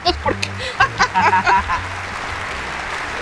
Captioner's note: both laughing